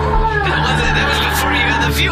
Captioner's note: groaning